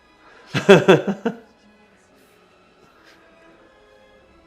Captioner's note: laughing